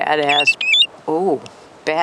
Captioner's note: bird calls